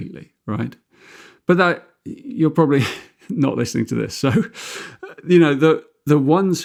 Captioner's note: chuckles